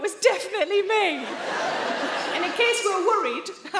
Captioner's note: audience laughing